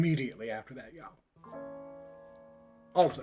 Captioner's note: none